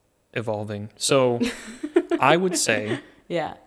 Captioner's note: laughing